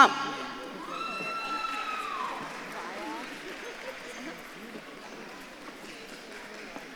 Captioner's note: audience claps and cheers